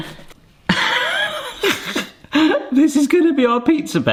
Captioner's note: laughing